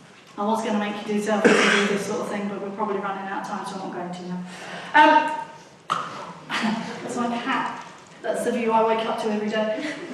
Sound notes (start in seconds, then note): 6.5 laughs